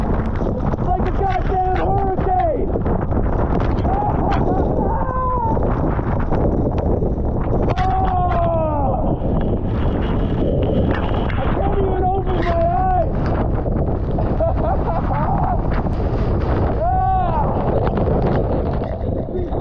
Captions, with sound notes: It's like a goddam hurricane. Ah! Oh! I can't even open my eyes. (laughs) (wind roaring)